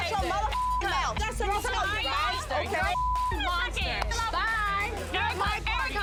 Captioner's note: beep; beep